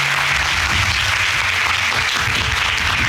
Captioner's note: applauding